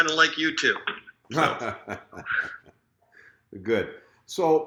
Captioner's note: laughing